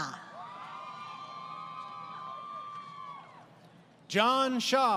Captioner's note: crowd Cheering